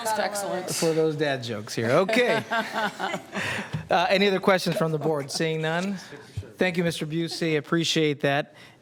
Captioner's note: some Laughter